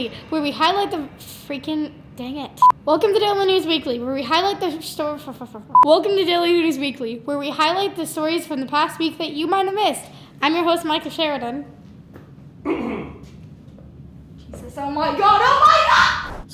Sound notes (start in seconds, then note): 12.6 coughs